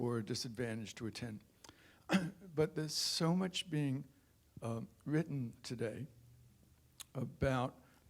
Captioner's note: cough